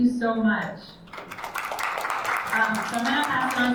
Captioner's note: attendees applauds